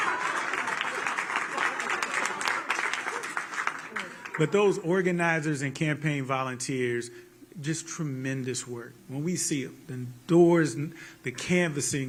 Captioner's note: applause; laughter